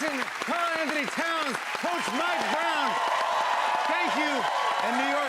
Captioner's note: cheers and applause